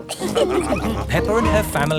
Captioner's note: all laughing